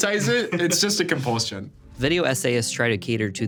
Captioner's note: chuckling